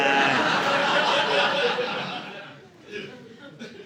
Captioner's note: audience laughing